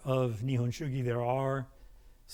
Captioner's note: speaking in a foreign language